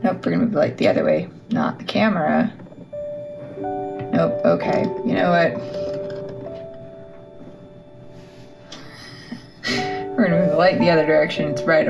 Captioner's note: sigh